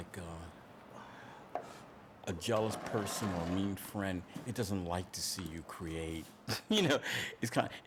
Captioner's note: laughs